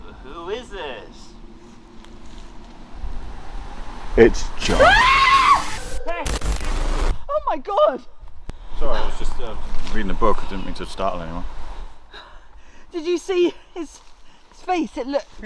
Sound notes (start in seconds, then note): 4.6 Leona screams